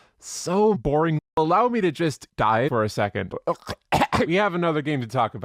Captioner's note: coughs